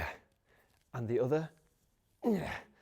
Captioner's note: grunts